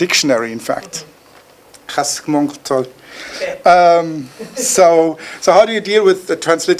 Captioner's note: speaking foreign language